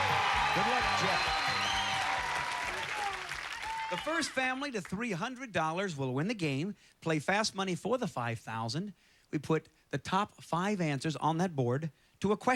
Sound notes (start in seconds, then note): 1.7 cheers and applause